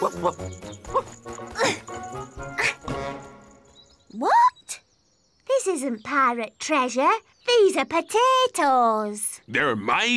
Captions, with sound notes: (barks) (pants) What? This isn't pirate treasure. These are potatoes.